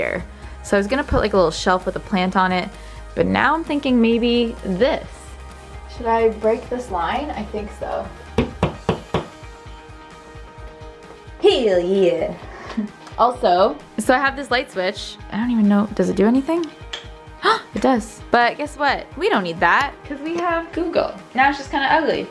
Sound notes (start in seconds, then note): 8.4 nails being hammered into wall